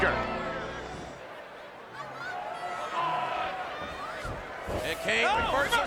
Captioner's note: audience chattering